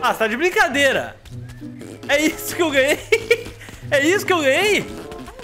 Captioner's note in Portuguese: risos